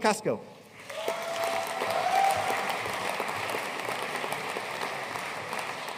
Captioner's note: audience cheering and applauding